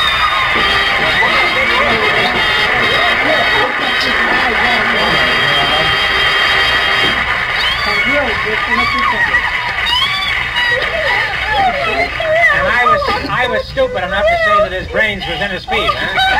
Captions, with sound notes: (Audience applauds) (She screams for joy.) And I was stupid enough to say that his brains was in his feet. Eh?